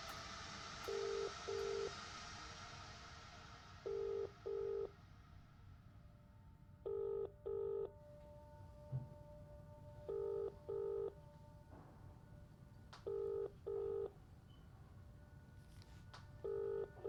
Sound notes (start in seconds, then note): 7.0 phone line ringing continues